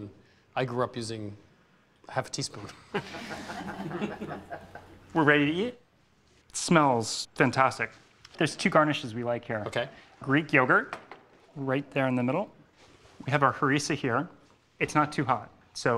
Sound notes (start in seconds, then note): 2.7 laughter